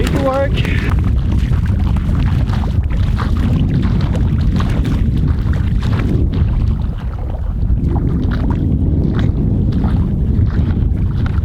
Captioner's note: footsteps in water